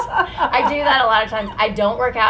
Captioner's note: laughs